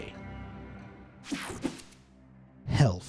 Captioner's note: transition slashes